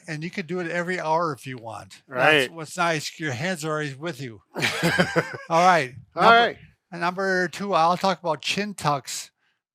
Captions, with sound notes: and you could do it every hour if you want. - Right. - What's nice is your hands are always with you. (both chuckle) All right. - All right. - Number two, I'll talk about chin tucks.